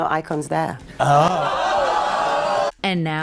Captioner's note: audience exclaiming